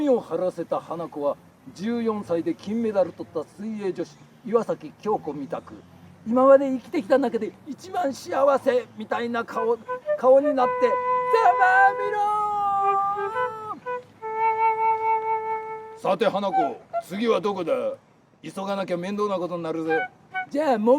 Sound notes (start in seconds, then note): 10.3 Hanako yelled